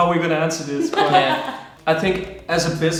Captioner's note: laughing